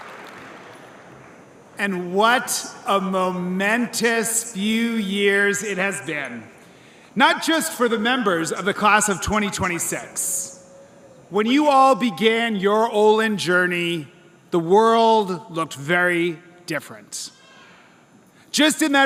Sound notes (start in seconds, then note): 1.2 cheers and applause